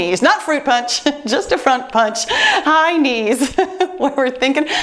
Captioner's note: laughs; laughs